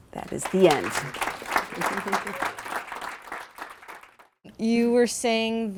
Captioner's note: applause